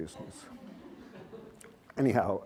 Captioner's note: laughter